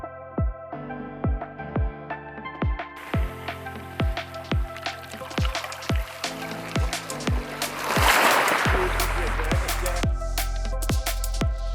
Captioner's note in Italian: Applauso